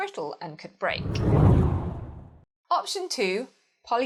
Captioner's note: hard whooshing